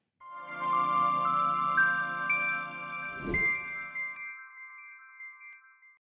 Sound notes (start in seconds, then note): 0.2 gentle music; 3.1 logo whooshing